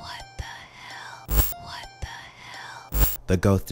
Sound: static crackling; static crackling

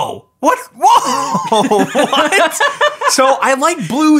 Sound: laughs

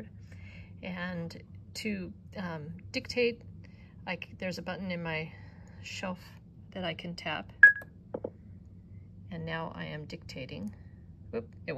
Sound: beep

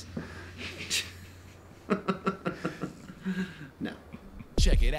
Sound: laughing

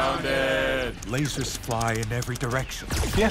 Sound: typing

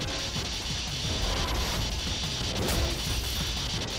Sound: electricity crackling

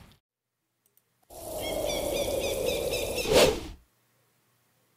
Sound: crows cawing in a desert with no trees

